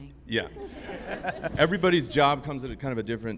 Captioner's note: group laughing